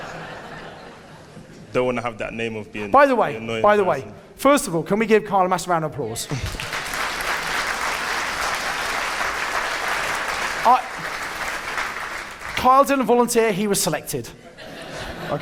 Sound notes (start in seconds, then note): 6.3 audience applauding; 14.4 audience laughing